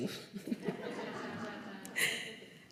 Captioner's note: laughter